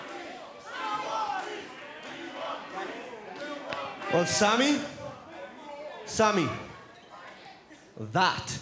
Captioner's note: fans chanting